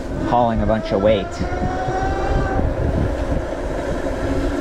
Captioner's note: engine roaring